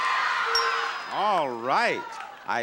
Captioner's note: bell chiming